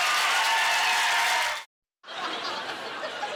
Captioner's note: clapping